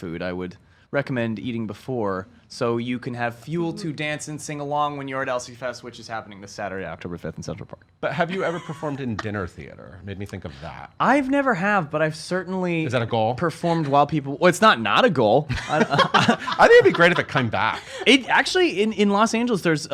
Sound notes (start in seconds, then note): 8.3 laughs; 15.6 laughs